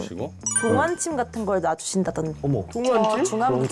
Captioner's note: sound effect of hearing something somewhere